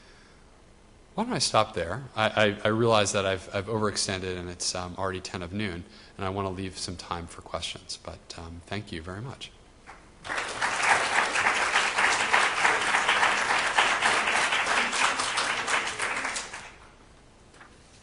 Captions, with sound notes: Why don't I stop there? I realize that I've overextended, and it's already 10 of Noon, and I wanna leave some time for questions, but thank you very much. (audience applauds)